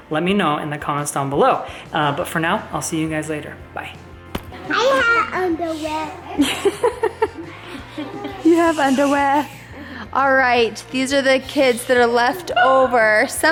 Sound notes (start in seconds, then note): 6.3 laughs